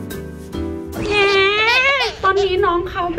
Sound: crying

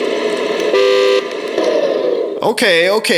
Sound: horn honks

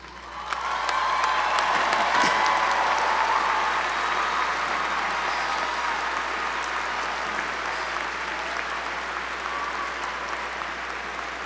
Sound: applause

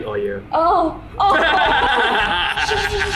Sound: laughs

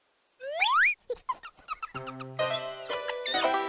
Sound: giggling

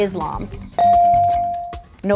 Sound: ding

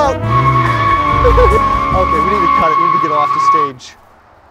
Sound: tires screeching

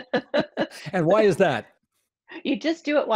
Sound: laughter

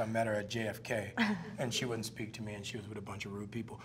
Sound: Kristen chuckles

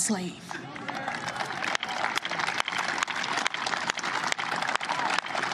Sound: cheers and applause

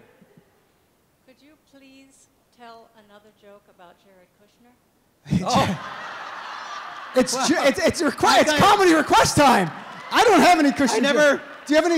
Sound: laughter

